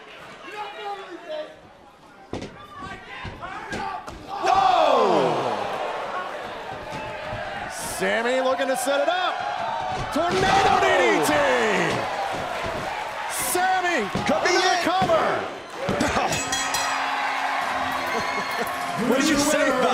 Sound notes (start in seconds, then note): 16.2 bell ringing